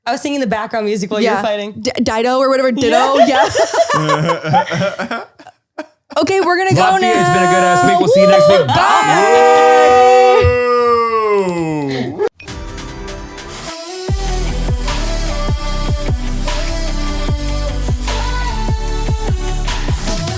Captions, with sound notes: - I was thinking the background music was funny. (laughing) - Okay, we're gonna go now, whoo. - Bye. (energetic upbeat music)